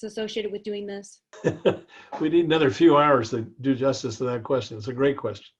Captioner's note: laugh